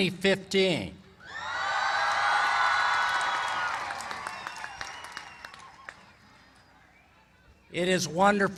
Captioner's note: applause